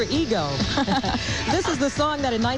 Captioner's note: laughs